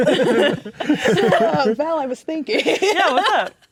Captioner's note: players laughing; laughing